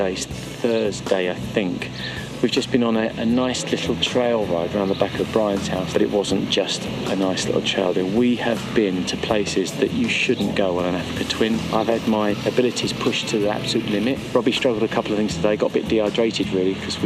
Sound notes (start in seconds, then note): none